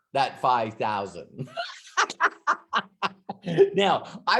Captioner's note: laughs